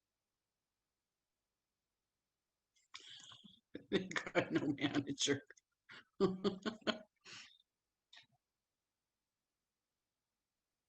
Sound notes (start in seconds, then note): 6.0 laughs